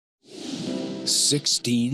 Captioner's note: swoosh